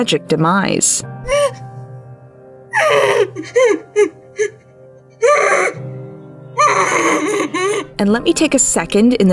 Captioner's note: Nell crying and whimpering